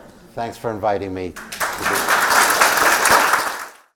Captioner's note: laugh; applause